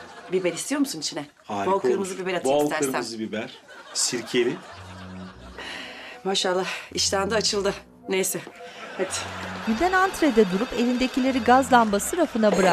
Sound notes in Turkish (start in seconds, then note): 9.6 Telefon zili sesi